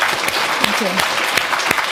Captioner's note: applause